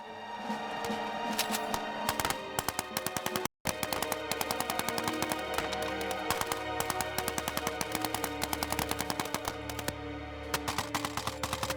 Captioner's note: maxim gun fires